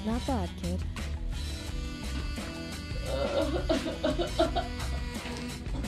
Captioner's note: henchman groaning